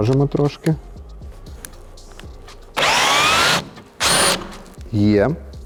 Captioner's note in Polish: dźwięk wkrętarki